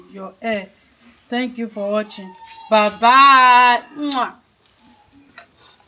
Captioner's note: kisses